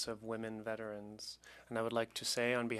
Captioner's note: speaking French